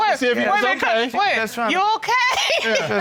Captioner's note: laughs